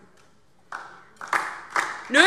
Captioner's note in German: Beifall DIE LINKE